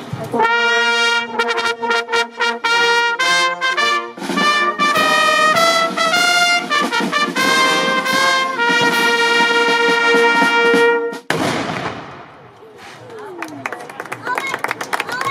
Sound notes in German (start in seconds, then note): 11.2 Kanonenschuss; 13.0 Applaus